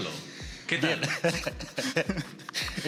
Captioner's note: laughs